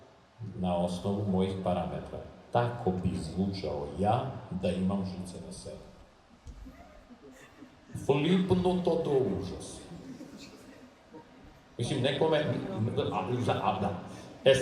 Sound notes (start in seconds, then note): 9.6 audience laughs